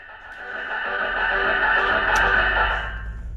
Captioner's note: metalic sounds